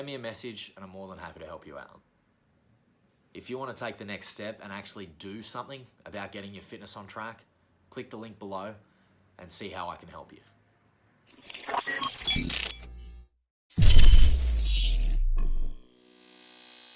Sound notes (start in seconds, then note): 11.2 electronic whirring